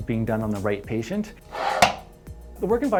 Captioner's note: pump sound